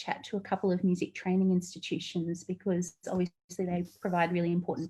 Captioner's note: audio distorts